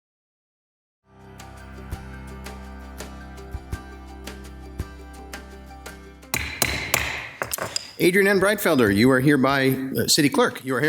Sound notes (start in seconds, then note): 1.1 uplifting music; 6.3 gavel knocking